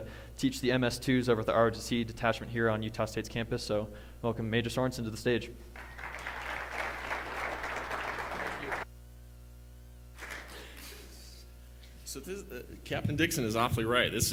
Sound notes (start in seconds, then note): 5.7 applause